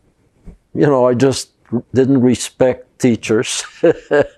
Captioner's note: laughing